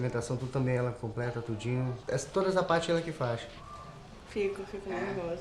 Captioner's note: man speaking Portuguese